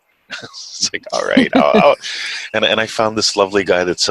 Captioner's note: chuckles